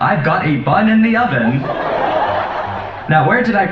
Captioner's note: laugh track